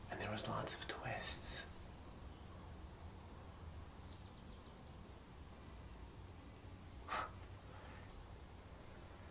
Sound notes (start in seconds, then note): 7.0 scoffs